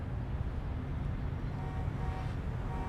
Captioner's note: car honking